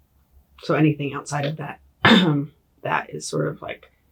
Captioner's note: clears throat